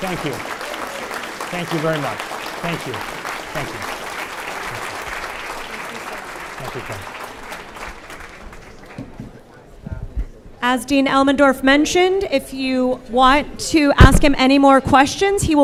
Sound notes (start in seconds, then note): 0.0 audience applause; 9.7 audience chatting off microphone